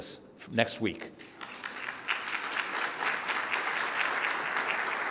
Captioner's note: audience applauding